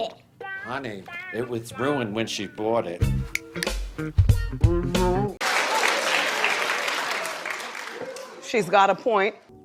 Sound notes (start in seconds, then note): 5.4 applause